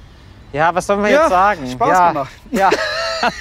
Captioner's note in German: lacht